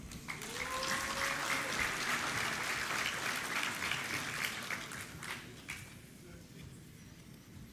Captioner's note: applause